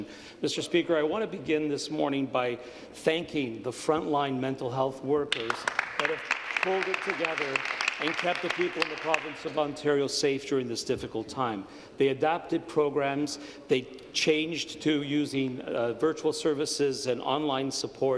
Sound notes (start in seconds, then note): 10.1 applause